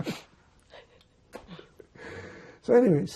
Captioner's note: laughing